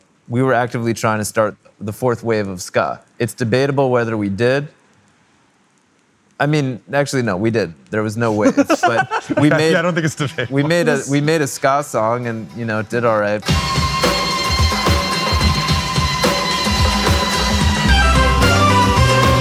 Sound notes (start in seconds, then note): 8.3 laughing; 13.4 upbeat ambient music